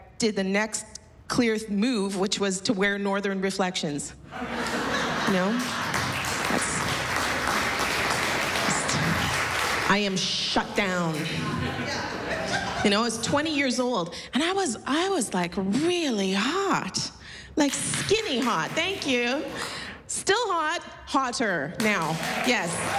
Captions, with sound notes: SO I DID THE NEXT CLEAR MOVE, WHICH WAS TO WEAR NORTHERN REFLECTIONS. [LAUGHTER] YOU KNOW? [APPLAUSE] I AM SHUT DOWN. YOU KNOW, I WAS 20 YEARS OLD, AND I WAS, LIKE, REALLY HOT. LIKE, SKINNY HOT. [SOME APPLAUSE] THANK YOU. STILL HOT. HOTTER NOW.